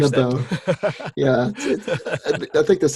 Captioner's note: laughing